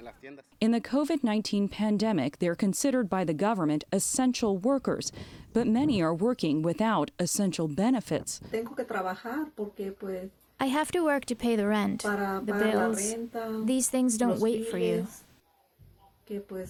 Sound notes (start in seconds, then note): 9.8 through translator